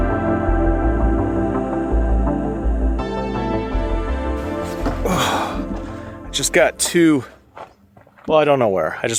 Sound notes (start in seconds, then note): 4.8 groans